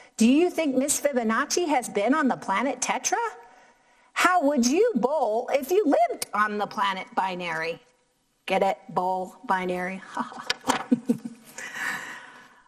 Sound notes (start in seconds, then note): 10.9 laughing